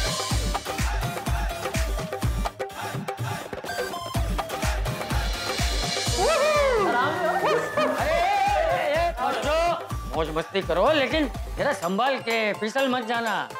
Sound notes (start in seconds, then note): 6.1 cheering